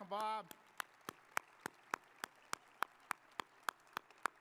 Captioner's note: audience applauding